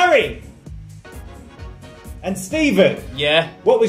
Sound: none

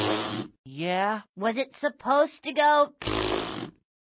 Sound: blows raspberry; blows raspberry

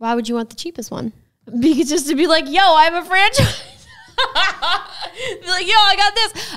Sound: laughs

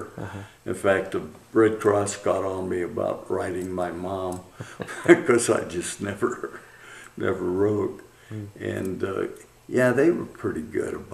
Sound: laughs

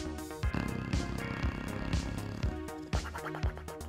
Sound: dog snoring; jowls slapping

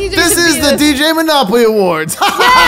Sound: laughs

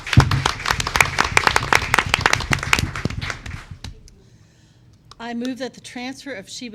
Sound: applause

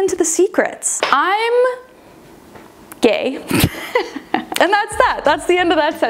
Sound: laughs

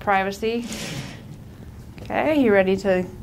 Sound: rod rattles

